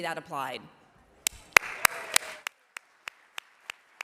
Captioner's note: applause